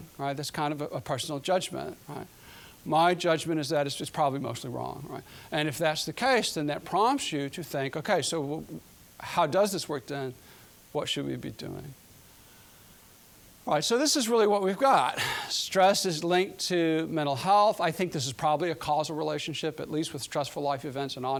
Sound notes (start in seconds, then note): 15.1 exhaling